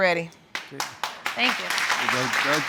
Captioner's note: audience clapping